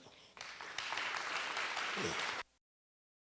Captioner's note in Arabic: تصفيق